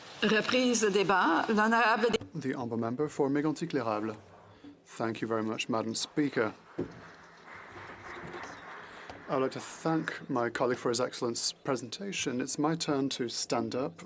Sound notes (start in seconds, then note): 5.1 speaking in French